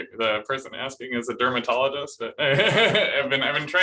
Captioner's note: laughter